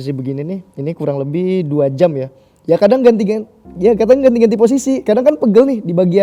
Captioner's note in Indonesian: none